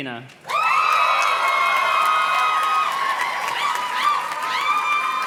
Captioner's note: audience cheers and claps